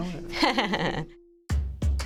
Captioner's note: laughing; upbeat music